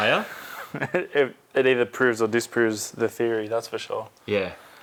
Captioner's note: laughing